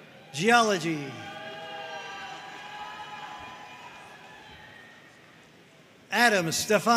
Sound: audience cheering and applauding

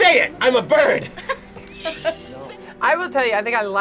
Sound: both laugh

